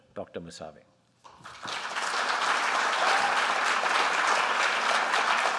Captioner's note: applause